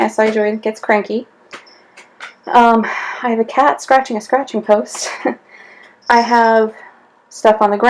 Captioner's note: laughs